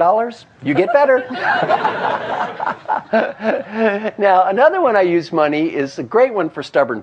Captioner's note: laugh